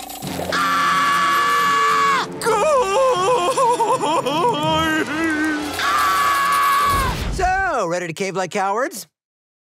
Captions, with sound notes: [screaming] [sobbing loudly] [screaming] So, ready to cave like cowards?